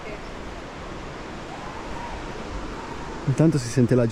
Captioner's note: screams